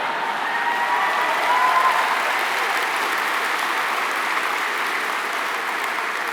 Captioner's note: applause